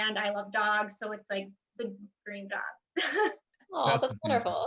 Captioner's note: chuckles